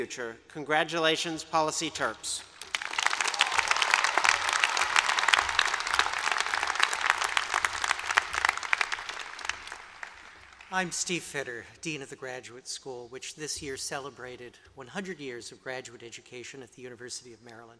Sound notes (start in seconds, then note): 2.4 applause